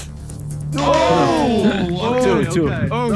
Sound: Sidemen oohing

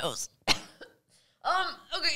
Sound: coughing

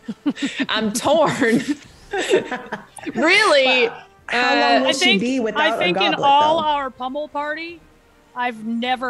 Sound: laugh

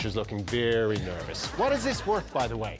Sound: laughter

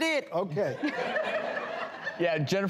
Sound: laughing

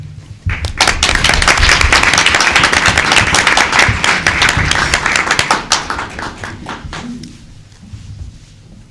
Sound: applause

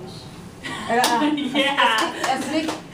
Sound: claps

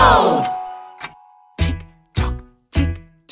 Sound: clock ticking

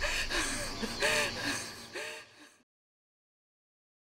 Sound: woman gasps

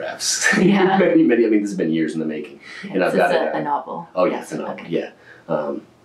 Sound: laughs

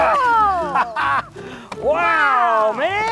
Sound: laughing

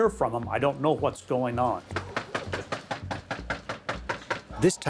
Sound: knocking on door

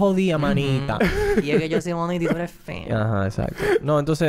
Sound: laughs

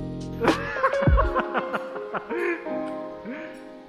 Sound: laughing

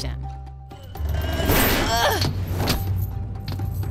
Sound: grunting

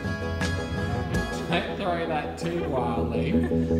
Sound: laughs

